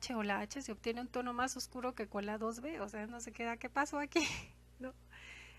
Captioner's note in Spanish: risas